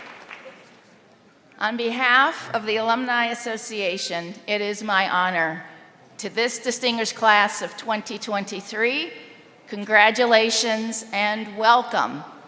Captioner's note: applause